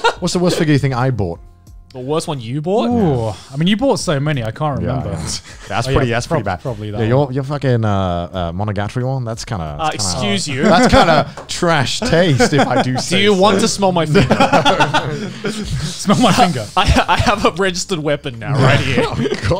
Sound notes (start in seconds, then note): 0.0 laughs; 14.0 laughing heartedly; 18.4 all laughing